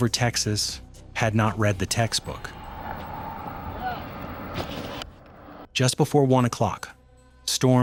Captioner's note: wind blowing